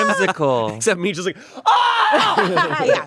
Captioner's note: screams